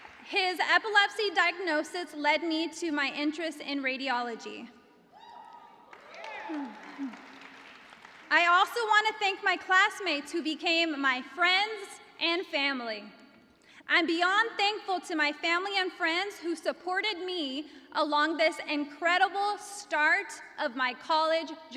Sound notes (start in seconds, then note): 5.2 cheers and applause